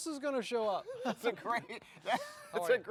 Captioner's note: laughs